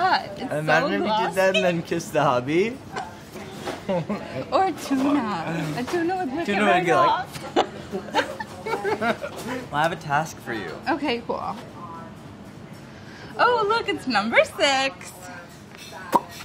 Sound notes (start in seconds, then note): 3.8 laughs; 7.5 laughs; 16.1 smacks lips